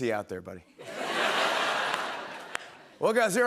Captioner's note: laughter